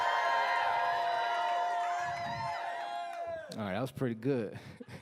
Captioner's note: cheering